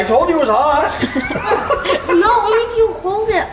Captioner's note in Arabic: ضحك